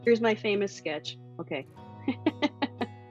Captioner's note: laughs